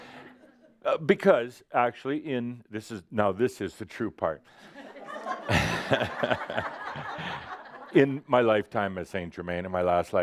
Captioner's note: laughter